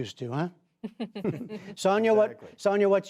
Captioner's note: laughter